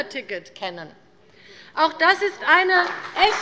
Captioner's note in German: Beifall bei der CDU und dem BÜNDNIS 90/DIE GRÜNEN